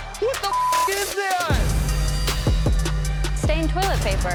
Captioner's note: beep